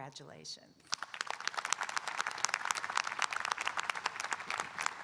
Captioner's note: audience applauding